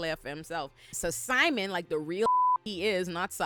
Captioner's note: beep